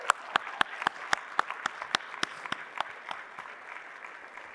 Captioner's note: applause